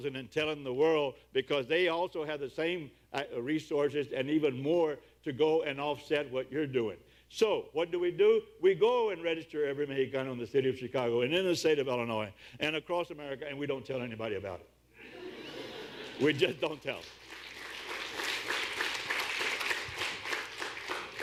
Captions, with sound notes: and telling the world because they also had the same resources and even more to go and offset what you're doing So what do we do? We go and register every Mejicano in the city of Chicago and in the state of Illinois and across America and we don’t tell anybody about it! [Audience laughs] We just don’t tell 'em. [Audience claps]